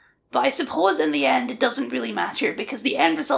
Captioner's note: none